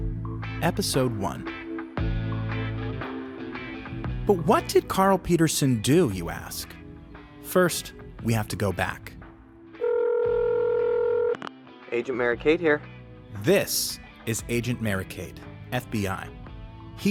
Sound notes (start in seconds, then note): 9.8 phone rings